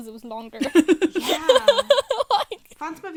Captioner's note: hosts laugh